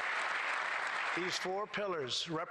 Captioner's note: applause